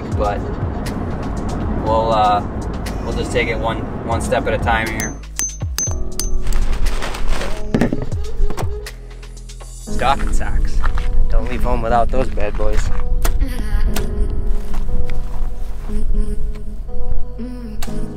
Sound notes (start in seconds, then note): 5.0 hammering; 6.4 tent flying in the wind sound; 7.6 cans stumping surface; 15.4 relax music